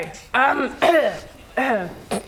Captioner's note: clears throat